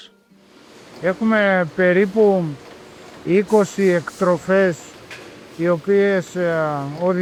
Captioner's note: speaking in foreign language